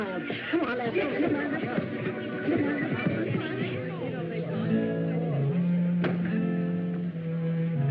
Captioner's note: chatter